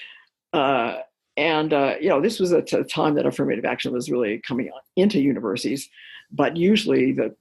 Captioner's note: chuckle